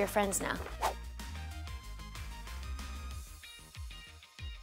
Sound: whooshing

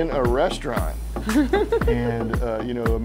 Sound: giggles

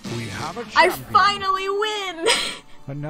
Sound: laughs

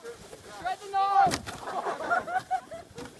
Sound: laughter

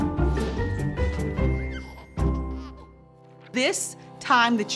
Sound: baby giggling

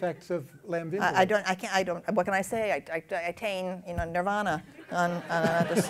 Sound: laughter

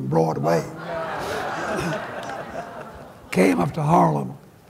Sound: laughter

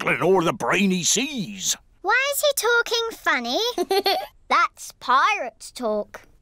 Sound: giggles

